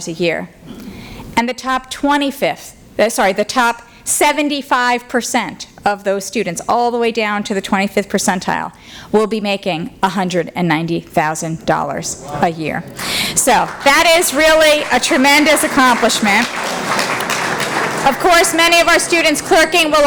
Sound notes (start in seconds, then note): 16.1 applause